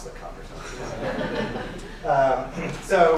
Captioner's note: laughing